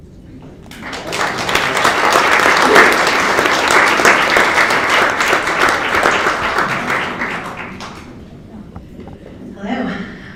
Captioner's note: applause